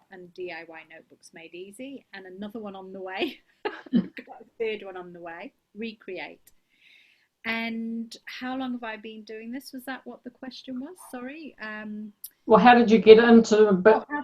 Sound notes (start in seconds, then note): 3.6 laughs